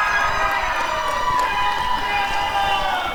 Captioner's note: applause and cheering